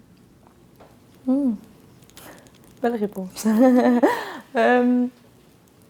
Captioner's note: laughs